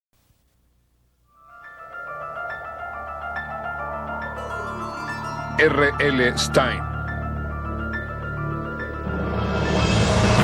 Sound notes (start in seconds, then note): 1.5 wind Whistling